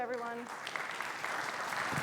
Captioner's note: audience applauding